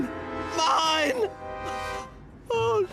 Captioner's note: Reginald sobs